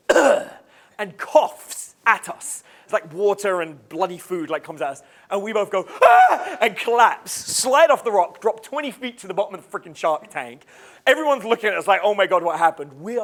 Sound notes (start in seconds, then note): 0.0 coughing; 6.0 screaming